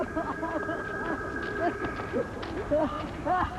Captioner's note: Travis sobbing